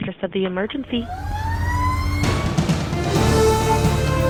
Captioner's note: firetruck siren wailing; upbeat inspiring music